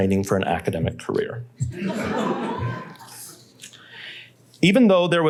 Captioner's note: laughter